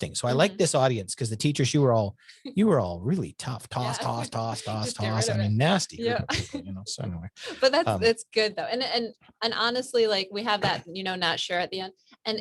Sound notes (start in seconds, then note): 6.8 laughs